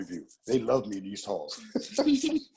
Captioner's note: laugh